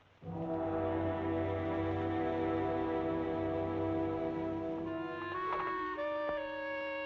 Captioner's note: suspenseful music; door rattling